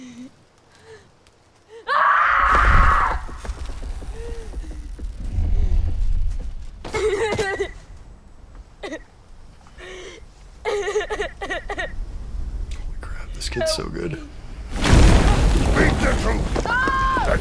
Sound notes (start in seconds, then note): 1.8 screams; 7.1 sobs